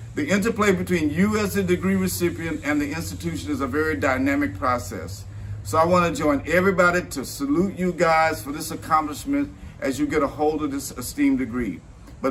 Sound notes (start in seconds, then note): none